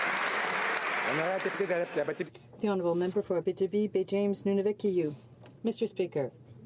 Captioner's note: some Applause